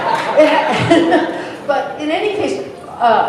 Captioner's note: laughter